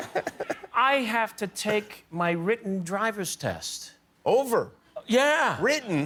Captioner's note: laughter